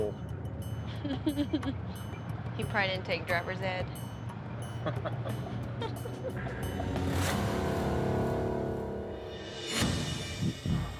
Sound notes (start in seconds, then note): 0.9 chuckles; 4.7 both laugh